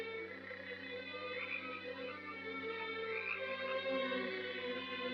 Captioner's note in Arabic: نعيق الضفادع